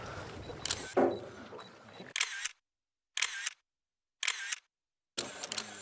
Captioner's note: camera clicking